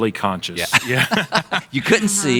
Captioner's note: laughing